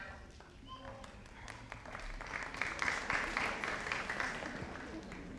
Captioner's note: audience applauding